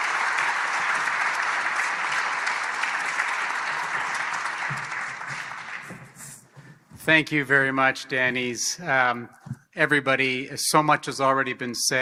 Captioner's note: applause